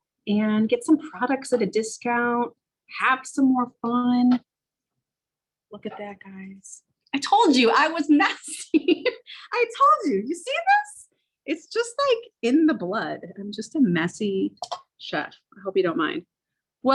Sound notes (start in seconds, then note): 8.3 laughs